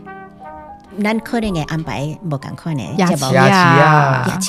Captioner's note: Taiwanese